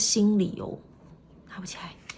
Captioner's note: whispering: can't lift it up